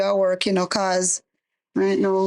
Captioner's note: speaking in foreign language